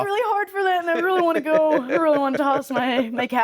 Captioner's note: laughing